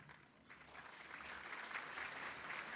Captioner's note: applause